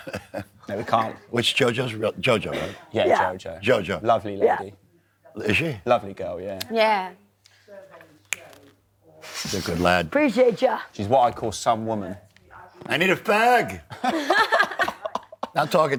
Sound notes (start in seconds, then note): 7.6 clicks